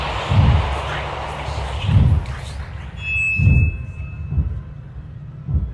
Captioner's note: chanting; ghost whispers